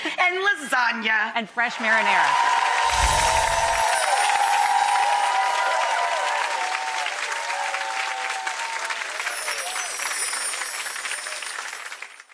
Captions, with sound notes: And lasagna. And fresh marinara. (audience applauds)